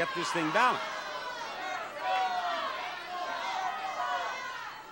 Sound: crowd yelling

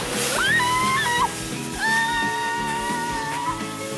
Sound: screaming all the way down

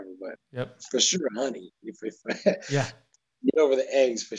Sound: laughs

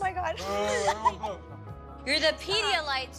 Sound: laughs

